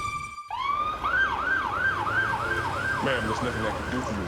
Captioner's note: siren wailing